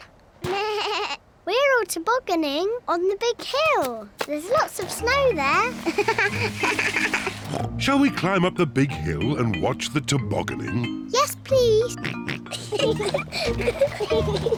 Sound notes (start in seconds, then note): 0.5 bleats; 5.5 laughs; 6.2 snorts; 11.7 both giggle; 12.0 oinks